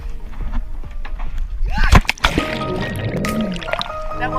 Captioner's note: scream